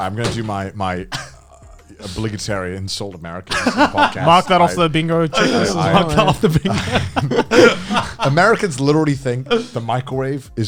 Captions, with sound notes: - I'm gonna do my obligatory insult Americans this podcast. - Mark that off the bingo- - Mark off the bingo. (men laugh) - Americans literally think the microwave